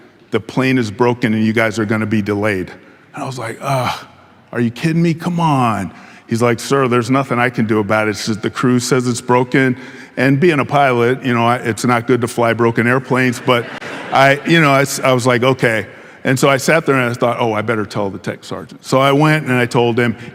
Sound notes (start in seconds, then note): 13.3 audience laughing